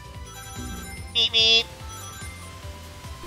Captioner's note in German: Autohupe ertönt